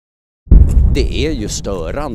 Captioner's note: explosion